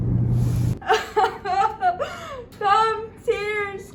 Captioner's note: Pyramus sobs